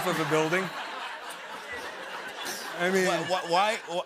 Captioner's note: laughter